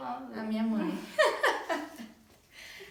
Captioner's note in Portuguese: risos